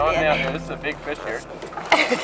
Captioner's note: laughter